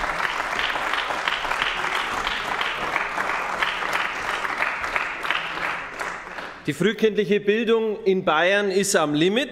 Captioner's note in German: Beifall bei den GRÜNEN